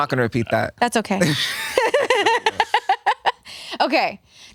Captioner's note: laughs